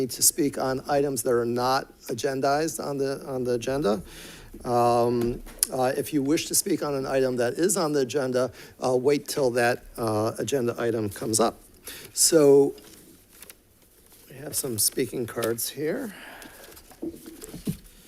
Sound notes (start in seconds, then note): none